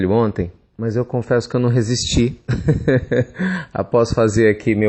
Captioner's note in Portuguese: risos